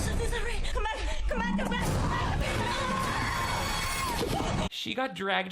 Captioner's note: Megan screaming